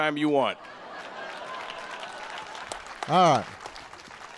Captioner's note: applause